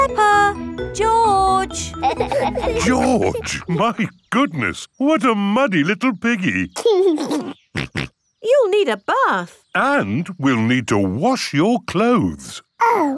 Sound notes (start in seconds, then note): 6.8 giggles and snorts